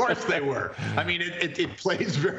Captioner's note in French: laughter